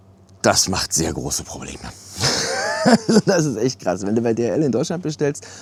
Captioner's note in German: gelächter